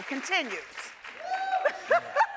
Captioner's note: audience cheering; laughs